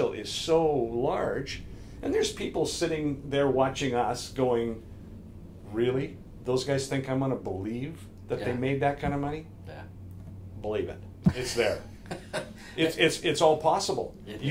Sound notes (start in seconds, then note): 11.9 laughs